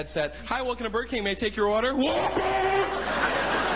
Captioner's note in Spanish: tipo gritando al microfono